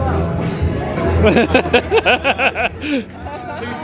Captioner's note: laughing